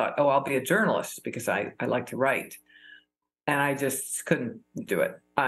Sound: none

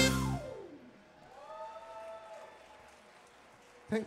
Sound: audience applauding

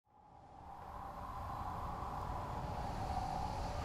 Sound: wind howls

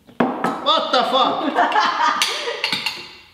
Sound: laughs

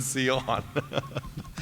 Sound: laughter

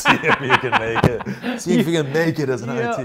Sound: laughs

